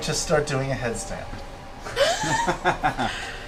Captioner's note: laughter